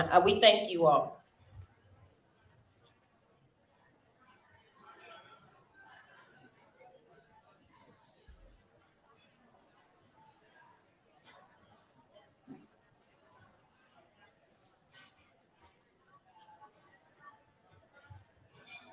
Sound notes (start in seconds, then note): 7.7 silence